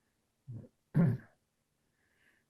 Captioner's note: coughing